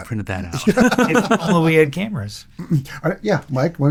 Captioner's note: laughing